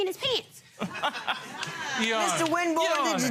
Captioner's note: laughing